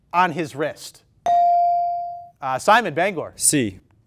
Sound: ding

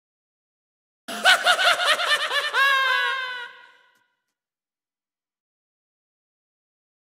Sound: sound of evil shriek

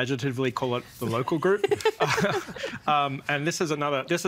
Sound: laughing

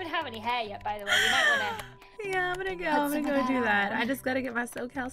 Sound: sighs

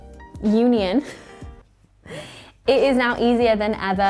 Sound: giggles

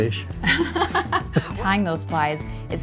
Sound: both laugh

